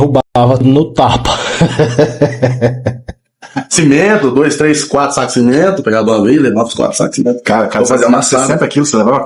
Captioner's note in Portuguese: risadas